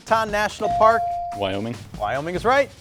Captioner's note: buzzer chimes